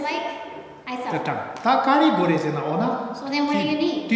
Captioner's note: speaking tibetan